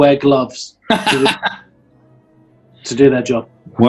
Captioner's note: laughing